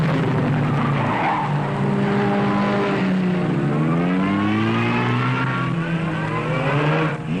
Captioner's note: engines roaring; tires squealing